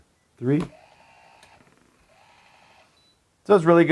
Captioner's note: lock whirs